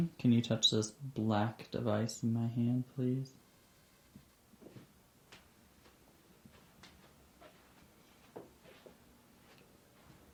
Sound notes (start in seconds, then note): 4.6 shoes padding